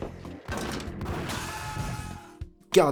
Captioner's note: sounds of ultraviolence